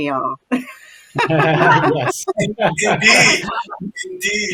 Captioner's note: laughter